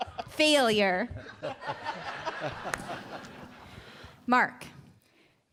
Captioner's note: laughs